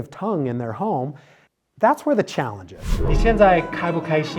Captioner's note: transition sound effect; chatting in Chinese